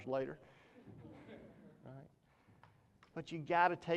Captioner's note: audience chuckles